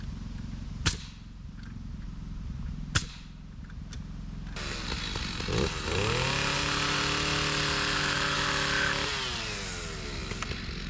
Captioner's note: trimmer buzzing